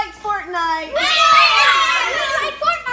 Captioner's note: kids cheering